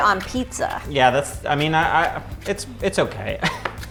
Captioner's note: laughs